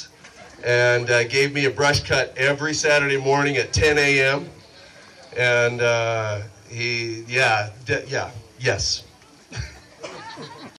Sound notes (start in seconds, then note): 9.4 chuckles